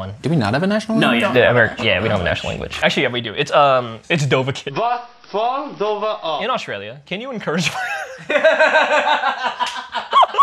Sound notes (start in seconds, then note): 7.6 laughter